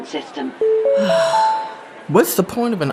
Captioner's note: notification sound; Charlene sighs